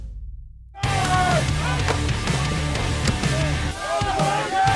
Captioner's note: players yelling